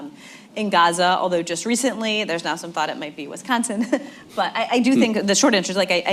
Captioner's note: laughs